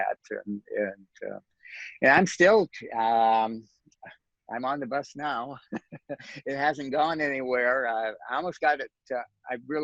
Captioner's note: laughs